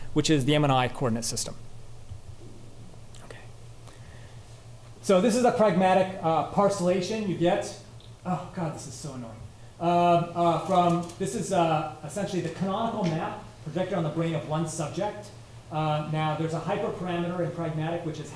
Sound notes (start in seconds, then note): none